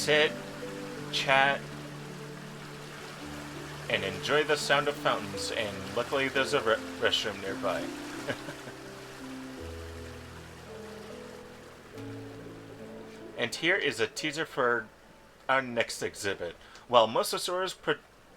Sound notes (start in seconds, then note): 11.8 chuckles